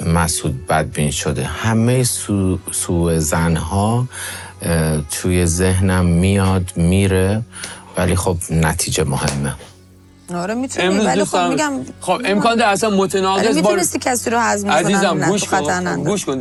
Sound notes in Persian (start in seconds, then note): 10.2 صدای خرناس